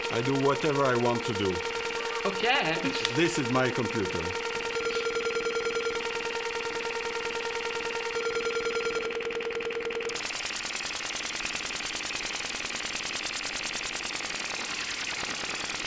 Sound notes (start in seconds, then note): 5.0 rhythmic computer beeping sounds continue